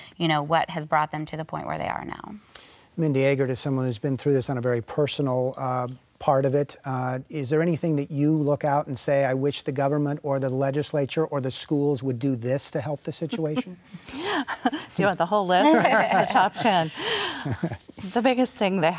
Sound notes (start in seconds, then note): 15.6 laughing